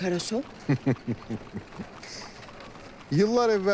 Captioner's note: laughter